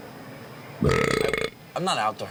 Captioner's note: gulping; belching